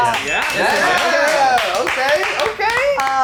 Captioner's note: movers clapping